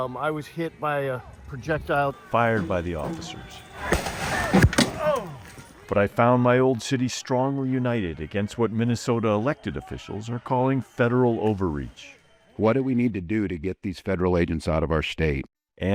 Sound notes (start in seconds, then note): 3.8 projectile thuds; 3.9 groans